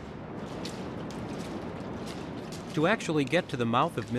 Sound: water sloshing

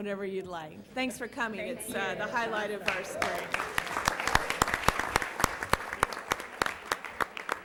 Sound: applause

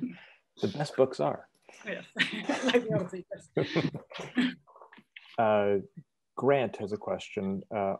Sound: laughts

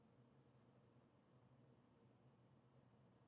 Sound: none

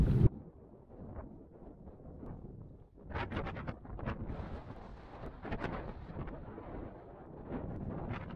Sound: wind

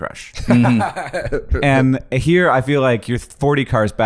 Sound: laughing

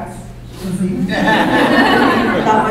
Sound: laughter

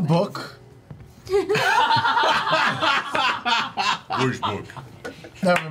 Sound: all laugh

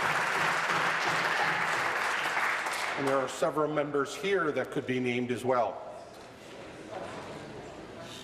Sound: applause

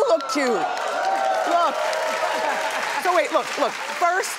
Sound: audience cheering

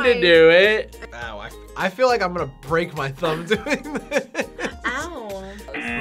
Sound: laughs; buzzer

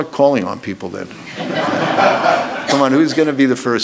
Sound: audience laughs

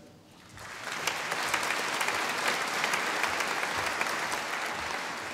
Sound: audience applauding

